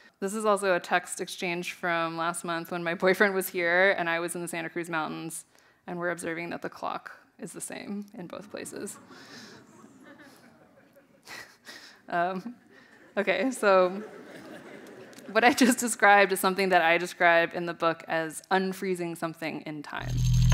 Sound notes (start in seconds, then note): 8.8 audience chuckling; 11.5 chuckling